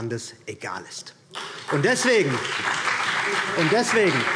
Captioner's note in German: Beifall BÜNDNIS 90/DIE GRÜNEN und vereinzelt CDU